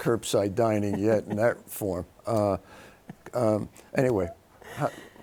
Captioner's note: laughing